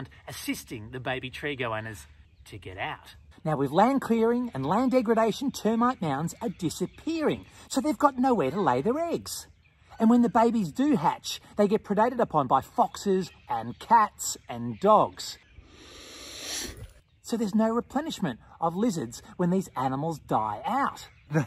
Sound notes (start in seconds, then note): 15.6 hissing